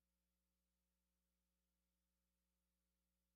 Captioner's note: none